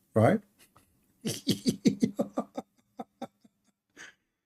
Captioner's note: Ketawa